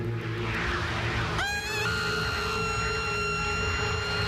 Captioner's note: screams